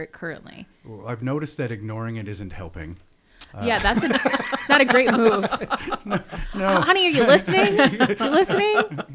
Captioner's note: laughter